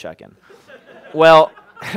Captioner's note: laughter